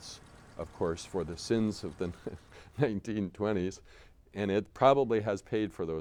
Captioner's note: chuckles